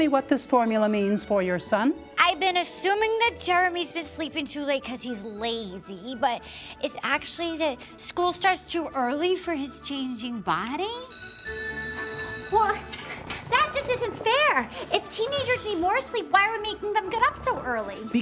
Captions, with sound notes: what this formula means for your son? I've been assuming that Jeremy's been sleeping too late 'cause he's lazy, but it's actually that school starts too early for his changing body. (bell ringing) Well, that just isn't fair! If teenagers need more sleep, why are we making them get up so early?